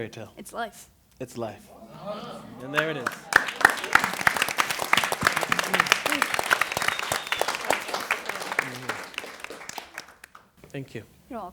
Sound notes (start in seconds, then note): 1.7 impressed exclamation; 2.6 applause